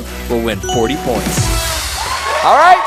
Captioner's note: cheers and applause